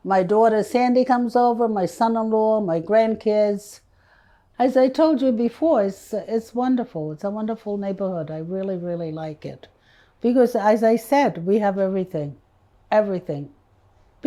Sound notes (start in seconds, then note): none